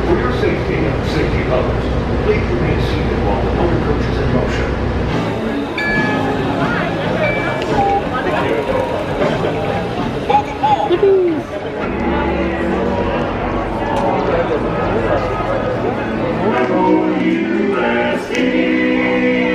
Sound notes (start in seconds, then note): 5.6 scanner beeps; 7.2 lively background chatter; 12.3 lively background chatter